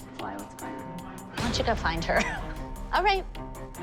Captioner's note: chuckles